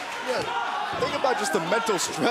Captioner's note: fans chanting